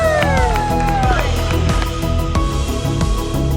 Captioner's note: cheering; upbeat music